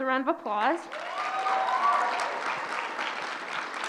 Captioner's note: applause